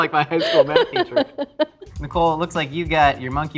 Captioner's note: laughing